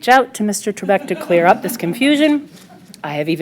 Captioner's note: laughter